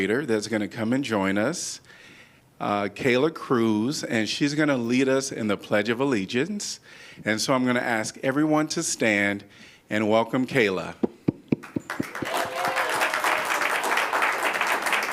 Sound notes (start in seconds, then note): 11.6 applause